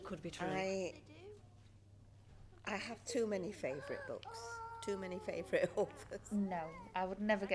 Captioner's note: laughs